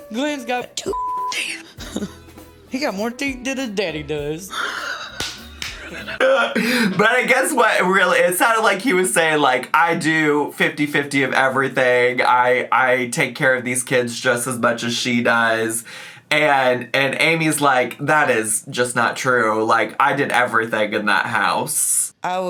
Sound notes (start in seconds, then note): 4.5 laughs